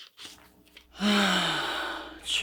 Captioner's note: sigh